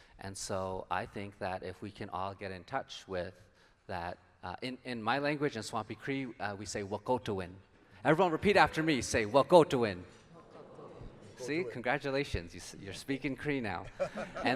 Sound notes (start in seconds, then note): 10.2 crowd; 13.9 laughs